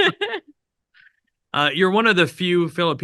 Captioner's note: both laughing